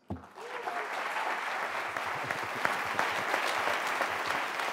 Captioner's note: applause